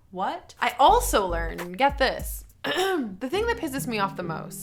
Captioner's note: clears throat